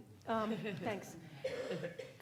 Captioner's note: laughing